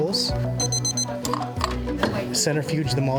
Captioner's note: monitor beeps